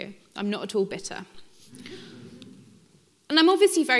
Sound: audience laughing

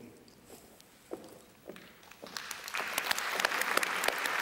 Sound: applause

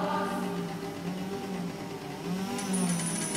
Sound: motorsaw

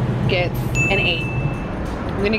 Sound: dings

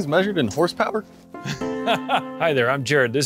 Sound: laughs

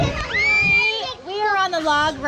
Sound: shrieks

